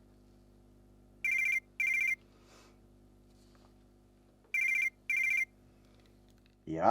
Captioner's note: phone starts ringing